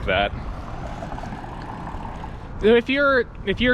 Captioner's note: wheels whizzing; air whooshing